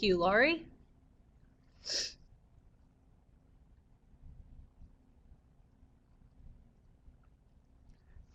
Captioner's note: no sound - waiting for questions